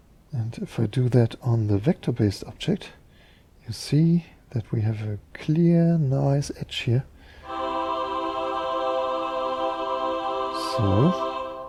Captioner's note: ahhh-Sound